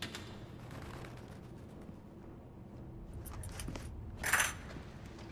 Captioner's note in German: handschellen scheppern